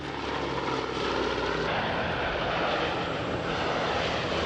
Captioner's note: plane roaring